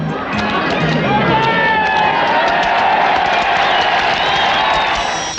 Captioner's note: cheers